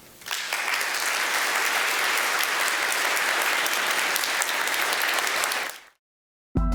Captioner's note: applause